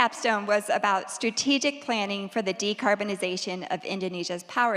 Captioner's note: none